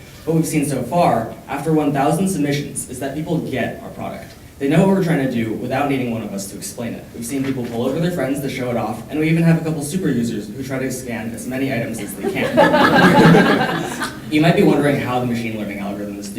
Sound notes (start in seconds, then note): 11.8 audience laughing